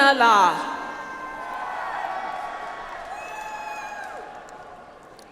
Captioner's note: audience applauds